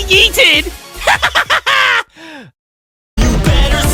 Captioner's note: gasp